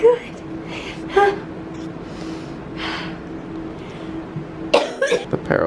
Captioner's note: breathing heavily